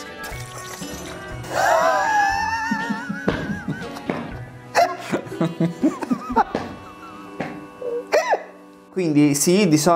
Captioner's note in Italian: ridono entrambi